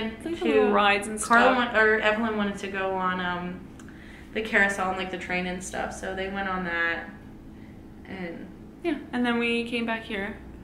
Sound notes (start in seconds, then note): none